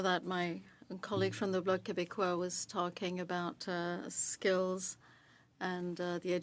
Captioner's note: speaking French